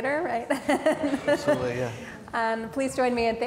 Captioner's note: laughs